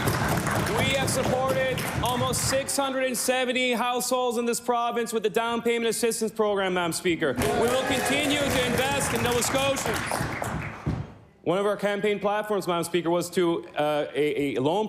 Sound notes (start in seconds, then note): 1.2 cheering and Applause